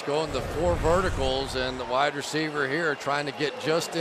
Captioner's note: cheering